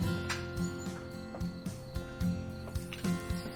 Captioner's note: door clicks